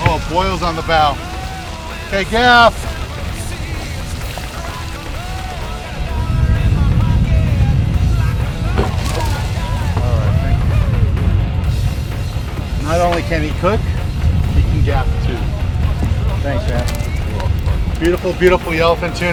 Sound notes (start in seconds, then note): 1.2 murmurs; 2.0 laughs